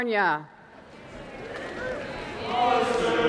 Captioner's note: students clapping and cheering